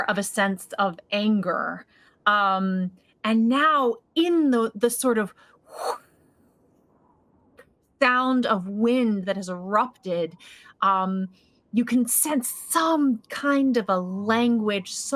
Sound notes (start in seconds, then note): 5.7 whoosing